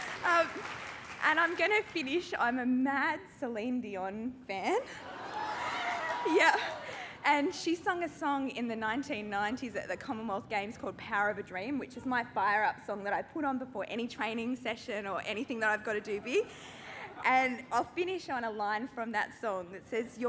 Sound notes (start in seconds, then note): 5.0 cheering